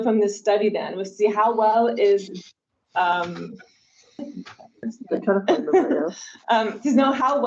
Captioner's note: participant speaks faintly